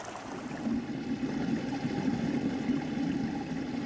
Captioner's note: underwater sounds